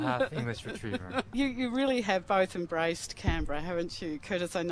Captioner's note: laughs